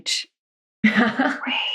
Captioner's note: laughs